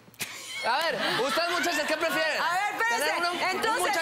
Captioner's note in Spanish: Risas